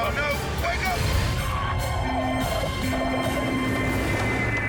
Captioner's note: horn honks; tires squeal